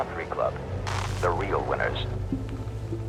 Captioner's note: radio voice